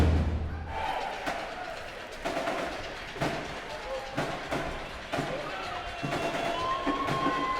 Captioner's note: crowd cheering